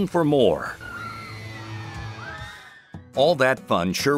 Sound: people scream

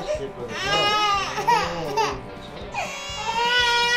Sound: Jaehee bursts into tears at the unfamiliar figure

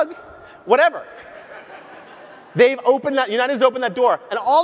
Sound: audience laughs

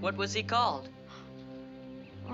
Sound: gasps

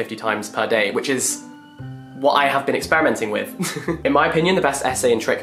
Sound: laughs

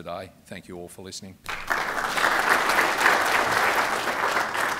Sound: applause

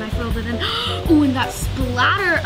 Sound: gasps

